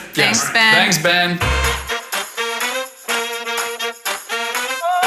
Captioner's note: in Unison; upbeat music